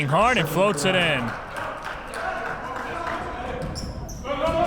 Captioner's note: clapping